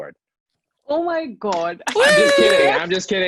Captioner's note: teammates cheering